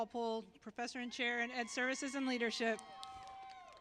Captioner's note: applause